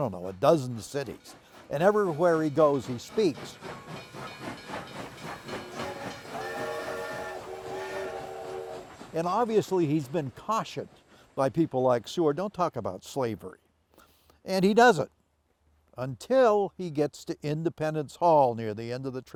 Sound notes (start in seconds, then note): 5.2 train whistles